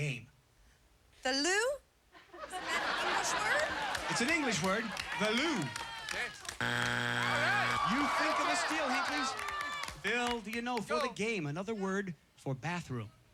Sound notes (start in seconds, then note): 6.6 buzzer